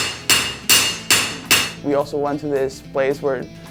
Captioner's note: hammering